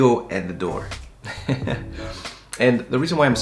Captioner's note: chuckling